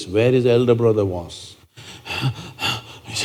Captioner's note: gestures panting breath